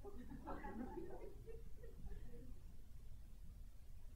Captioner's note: audience giggles